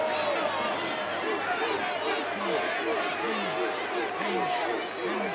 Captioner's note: crowd barking